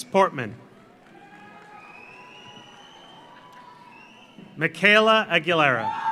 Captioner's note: audience applauds; audience cheers